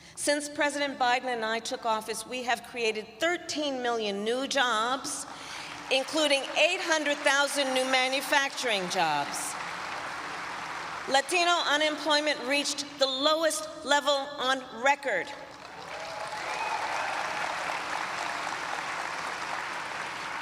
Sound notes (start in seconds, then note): 9.9 applause; 15.4 applause